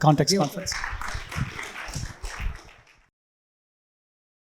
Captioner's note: audience clapping